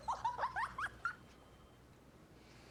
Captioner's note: giggling